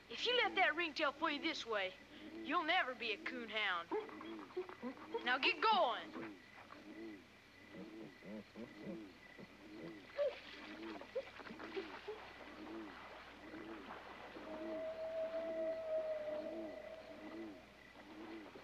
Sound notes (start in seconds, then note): 10.5 dogs whimpering; 15.5 crickets chirping